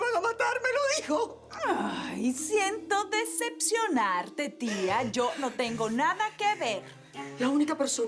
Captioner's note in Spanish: Sollozos